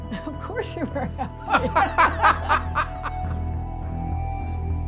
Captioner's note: laughter